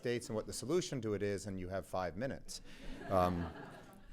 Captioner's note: laughter